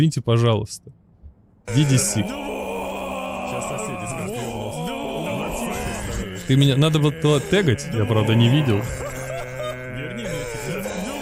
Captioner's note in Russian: стон